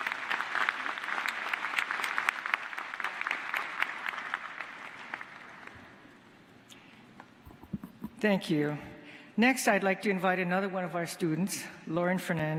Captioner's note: applause